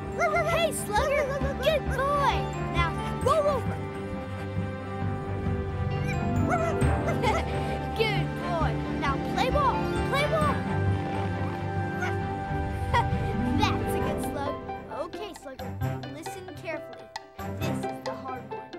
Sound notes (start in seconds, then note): 4.7 barking; 12.0 laughs